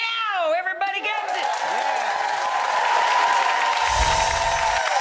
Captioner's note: audience cheering